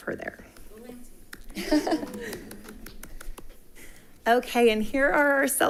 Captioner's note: chuckling